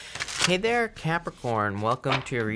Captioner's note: card shuffling